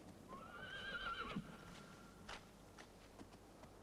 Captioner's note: horse whinnies